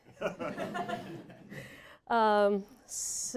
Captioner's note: laughter